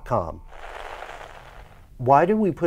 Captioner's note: static